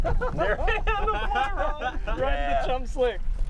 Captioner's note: laughing